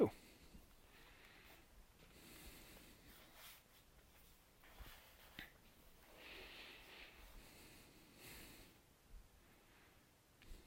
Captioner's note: silence